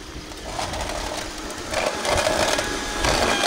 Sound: crunching

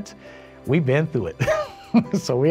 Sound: laughing

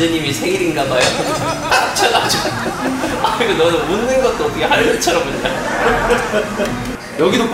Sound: laughter

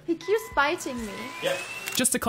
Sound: vaccum starts

